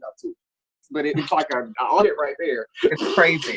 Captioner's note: both laughing